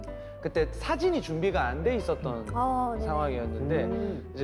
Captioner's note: none